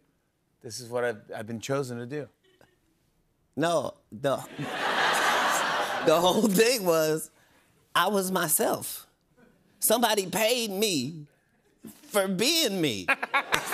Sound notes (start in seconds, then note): 4.5 laughter